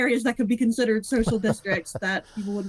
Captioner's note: laughing